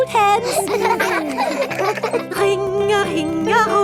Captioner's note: giggling